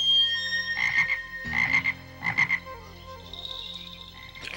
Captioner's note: Gus croaking